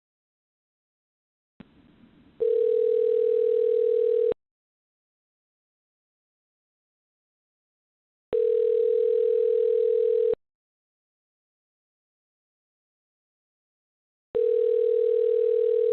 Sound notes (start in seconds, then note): 2.6 phone Ringing